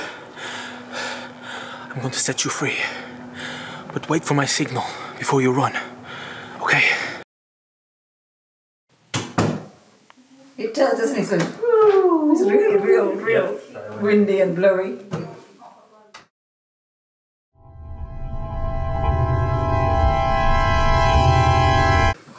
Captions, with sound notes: I am going to set you free but wait for my signal... Before you run. (Sound of door shutting) It does? Doesn't it? It's like "whhooooWhOWOooooo" Windy and blowey! (Intense scary music)